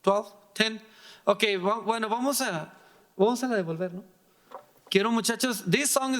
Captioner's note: speaking in foreign language